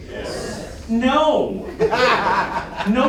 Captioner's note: laughter